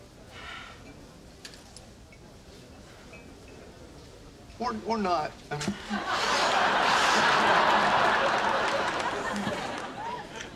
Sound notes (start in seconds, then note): 5.7 audience laughing